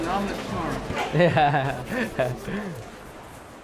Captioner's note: laughing